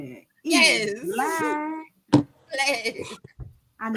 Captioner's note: laughs